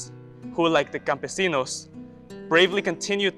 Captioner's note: speaks Spanish